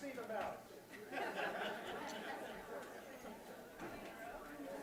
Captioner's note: laughter